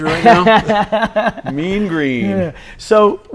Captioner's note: laughs